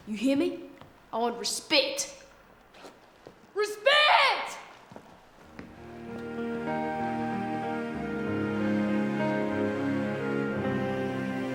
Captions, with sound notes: You hear me? I want respect! (screams) Respect! (somber instrumental music)